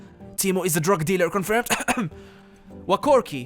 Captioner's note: cough cough